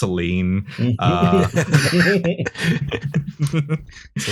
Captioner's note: laughter